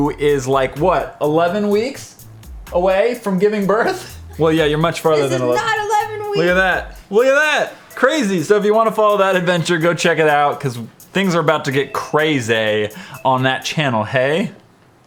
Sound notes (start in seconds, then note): 3.8 laughs